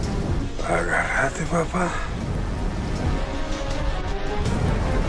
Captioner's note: pilot speaking in Spanish